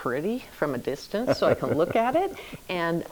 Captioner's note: laughs